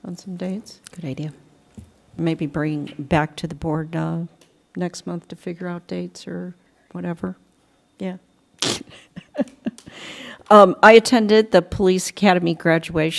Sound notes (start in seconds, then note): 8.9 laughter